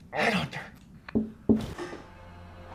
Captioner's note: knocking from above; scary music